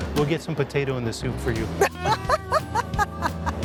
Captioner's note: laughs